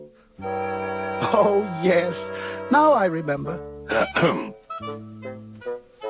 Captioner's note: chuckles; clears throat